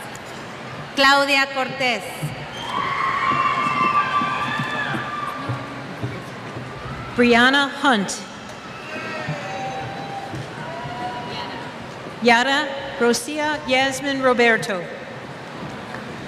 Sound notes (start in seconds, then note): 2.5 cheers